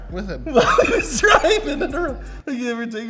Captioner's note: laughs